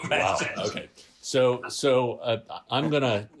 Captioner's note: laughter